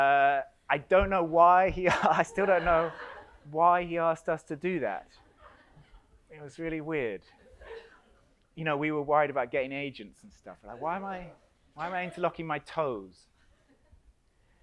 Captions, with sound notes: I don't know why he, I still don't know why he asked us to do that. It was really weird. (audience laughs) You know, we were worried about getting agents and stuff, like why am I interlocking my toes?